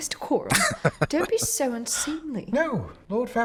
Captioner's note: laughing